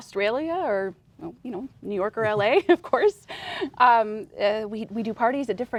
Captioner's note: laughs